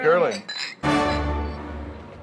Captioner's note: clinking